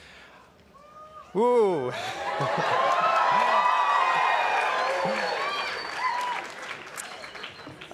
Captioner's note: cheers, applause